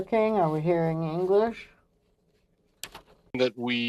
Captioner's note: speaking French